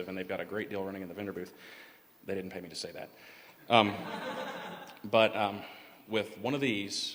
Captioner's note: laughter